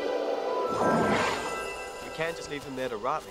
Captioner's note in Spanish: polvo mágico explotando